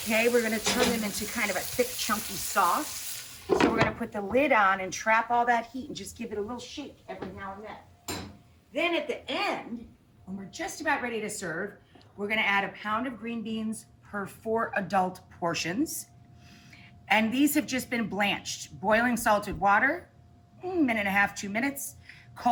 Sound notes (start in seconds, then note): 3.4 clunking sound